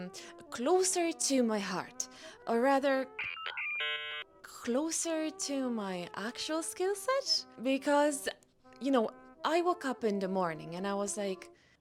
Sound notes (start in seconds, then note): 3.2 the Sound of dial-up Internet; 7.6 said in a very weird accent